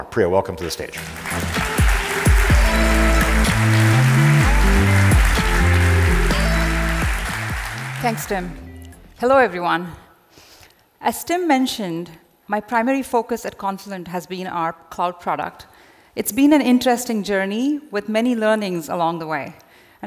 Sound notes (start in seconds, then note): 0.6 audience applauding; 0.9 twitchy music